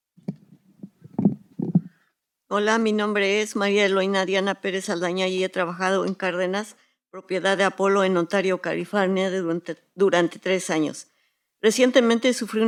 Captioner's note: speaking in Spanish